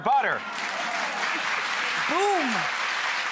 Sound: audience applauds

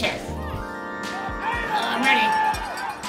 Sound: crowd noise

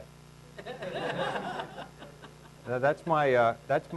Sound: laughing

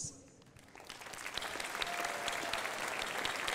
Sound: crowd applauding

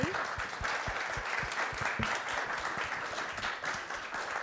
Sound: audience applauds

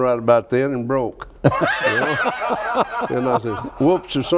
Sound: laughs

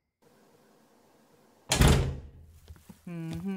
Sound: sigh

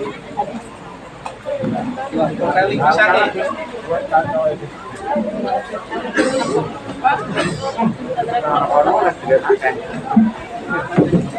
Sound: laughs

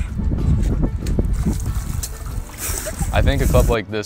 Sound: water splashing

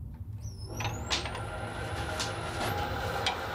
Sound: whirring

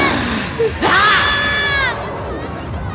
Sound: groans; grunts

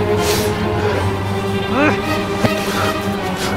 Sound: groaning and grunting

